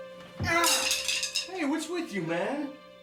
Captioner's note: sticks crashing